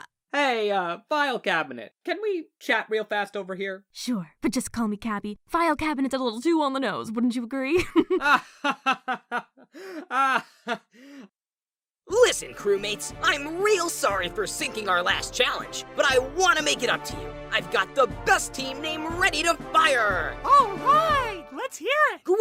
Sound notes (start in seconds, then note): 7.8 giggles; 8.3 fan laughs; 10.0 fan laughs... awkwardly